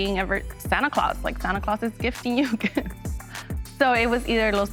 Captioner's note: laughs